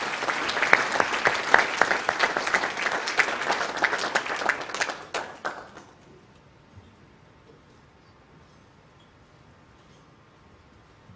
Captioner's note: applause